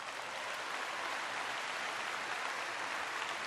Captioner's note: applause